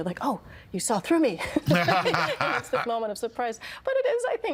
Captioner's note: laughing